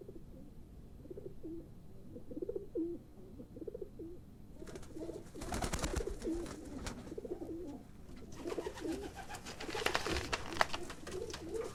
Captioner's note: pigeons cooing